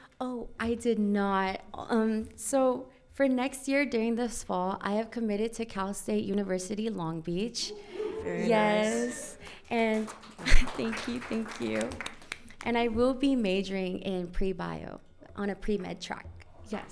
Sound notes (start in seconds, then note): 7.6 audience cheers; 11.0 audience applauds